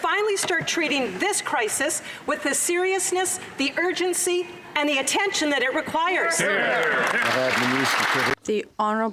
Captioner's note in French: voix de l'interprète